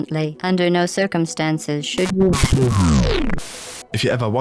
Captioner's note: bzzzpt